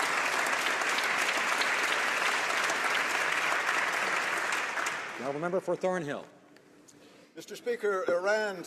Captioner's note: some Applause